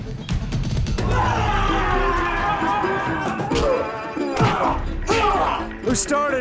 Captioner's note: dramatic music; men shouting, fighting